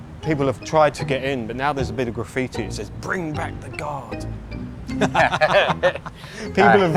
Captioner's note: laughs!